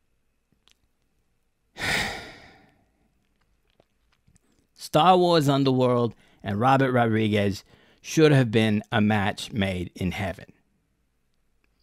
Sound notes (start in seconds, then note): 1.7 heavy sigh